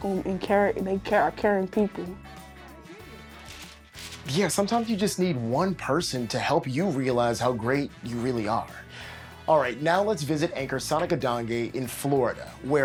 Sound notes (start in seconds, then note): 3.3 paper rustling